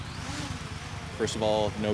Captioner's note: drone taking off